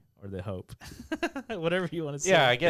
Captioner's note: laughs